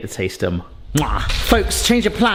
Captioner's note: chef's kiss smacks